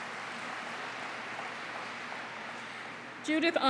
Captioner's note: applause